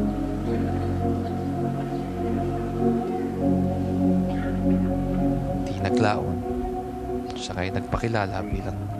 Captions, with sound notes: [Coughing contnues] -Soon after, -he introduced himself